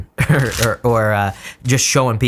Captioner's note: chuckles